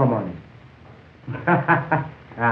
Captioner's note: chuckles